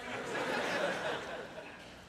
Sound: laughter

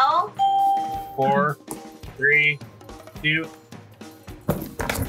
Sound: bell rings

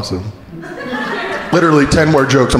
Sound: crowd laughing

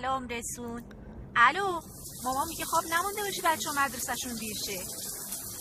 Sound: water splashing

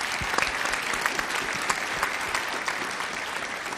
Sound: applause

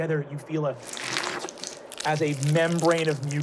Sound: squishing

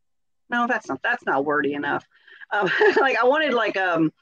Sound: laughs

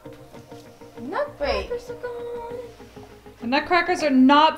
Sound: murmuring

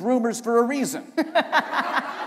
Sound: laughter

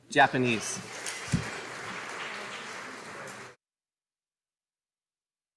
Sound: audience applauding

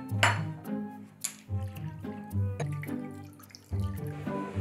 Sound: liquid pouring

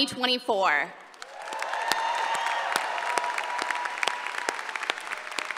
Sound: applause and cheering

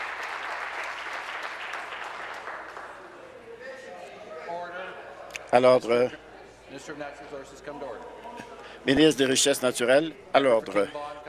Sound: applause

